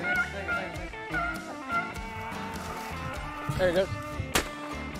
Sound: dogs barking; gun fires

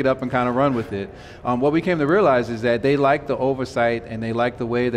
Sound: none

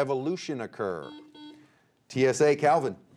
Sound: buzzer beeping

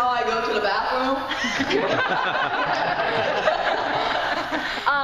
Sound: laughing

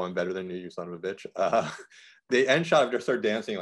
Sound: laughs

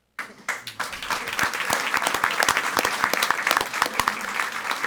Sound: audience applauding

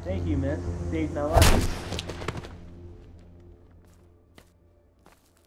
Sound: gunshot

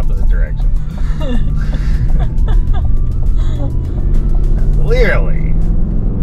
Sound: both are laughing

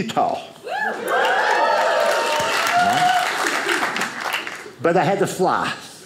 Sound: audience cheers

